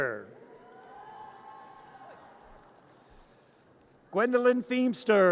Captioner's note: audience cheers